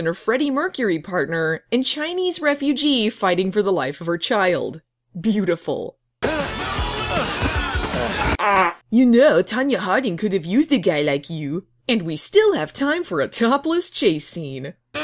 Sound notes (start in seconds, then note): 8.2 fart noise